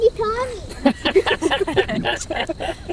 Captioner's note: laughing